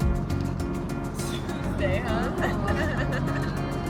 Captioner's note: both laughing